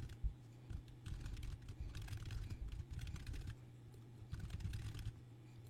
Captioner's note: typing